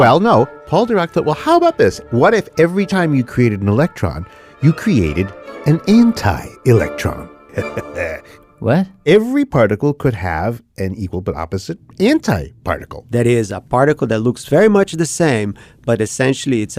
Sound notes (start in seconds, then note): 7.5 laughs